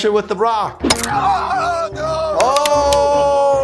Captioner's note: bone cracks; painful shriek